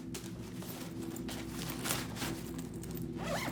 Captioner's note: backpack rustling; zipper rattling